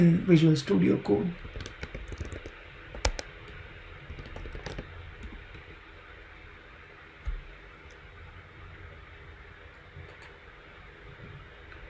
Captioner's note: typing